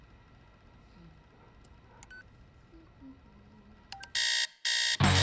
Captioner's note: Izzie humming quietly; alarm blaring